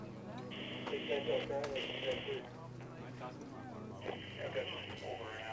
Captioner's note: radio talk chattering